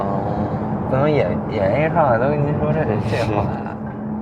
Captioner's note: beijing accent